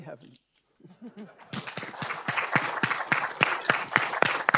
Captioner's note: audience applauding